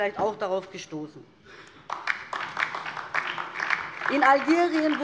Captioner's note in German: Beifall DIE LINKE